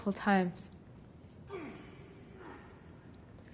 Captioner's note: grunting